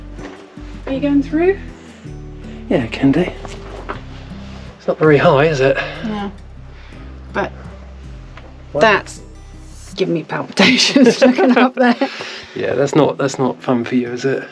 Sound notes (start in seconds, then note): 10.9 laughter